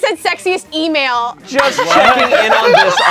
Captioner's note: group laughs